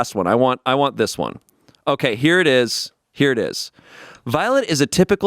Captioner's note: none